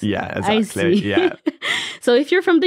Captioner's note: laughs